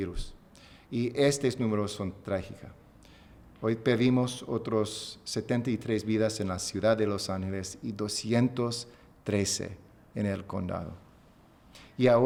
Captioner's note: speaking spanish